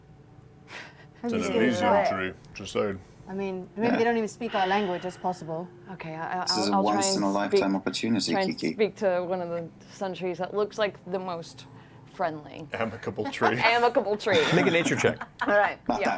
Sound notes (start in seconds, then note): 12.8 laughing